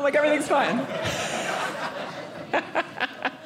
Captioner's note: audience laughing